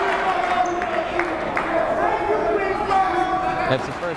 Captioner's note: yelling